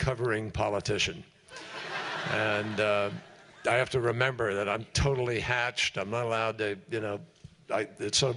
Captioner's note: laughter